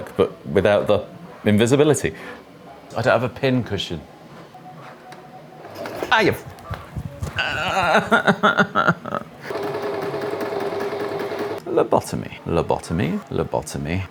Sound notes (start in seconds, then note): 7.3 moans of pain